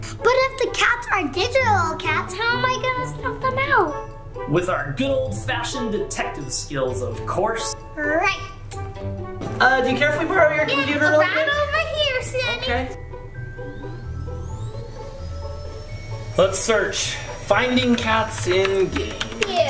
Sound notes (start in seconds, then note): 13.6 Roomba whirs